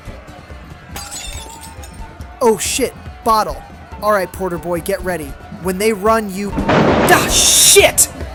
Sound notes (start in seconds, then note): 0.9 bottle breaking; 6.5 thunder claps